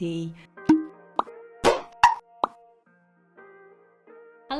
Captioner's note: logo popping